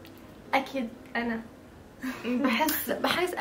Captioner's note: chuckles